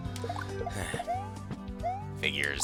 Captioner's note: sigh